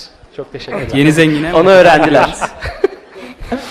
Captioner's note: laughs